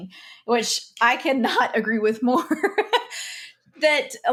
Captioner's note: laughs